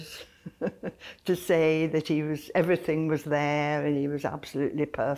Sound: laughs

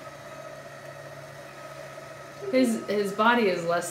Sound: whirring continues

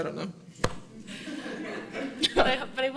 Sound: audience laughing

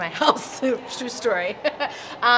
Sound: laughs

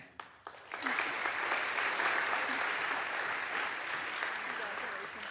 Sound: audience applauds

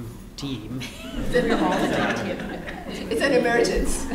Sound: laughter

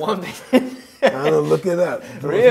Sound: laughing

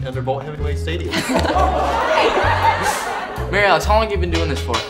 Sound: audience laughing

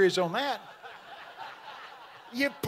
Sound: audience laughing

